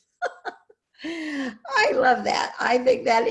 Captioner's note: laughs